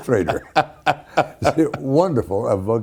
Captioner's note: Ken Howard laughing